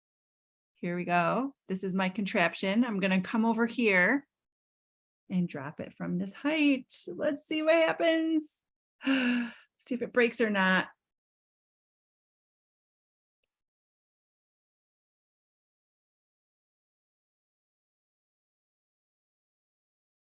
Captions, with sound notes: Here we go. This is my contraption. I'm gonna come over here and drop it from this height, so let's see what happens. [Gasp] See if it breaks or not.